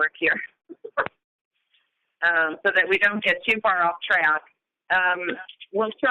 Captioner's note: chuckle